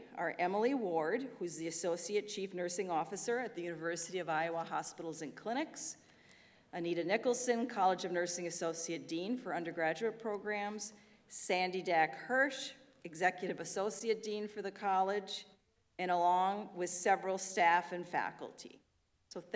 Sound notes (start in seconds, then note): none